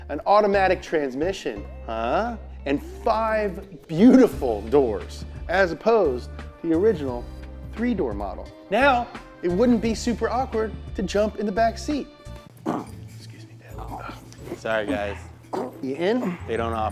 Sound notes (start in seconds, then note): 13.7 grunts